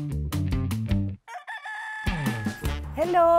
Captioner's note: rooster crows